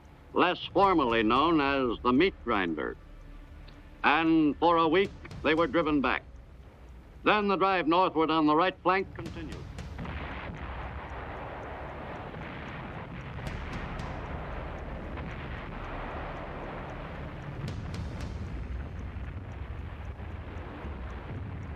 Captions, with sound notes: less formally known as the Meat Grinder, and for a week they were driven back. Then the drive northward on the right flank continued. (explosions)